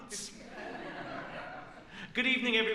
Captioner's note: laughs